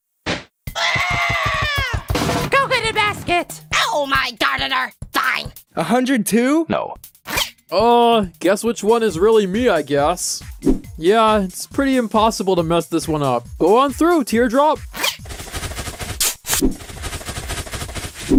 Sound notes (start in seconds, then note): 0.7 screams; 2.0 recovery sound; 16.4 running